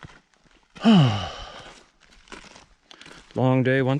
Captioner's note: sighs